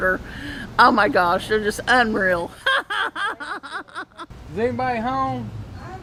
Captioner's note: laughs